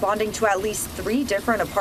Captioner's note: rushing water nats